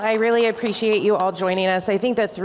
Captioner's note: applause